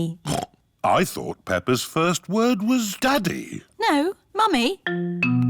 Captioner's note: snorts